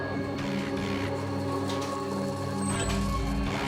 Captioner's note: locusts buzzing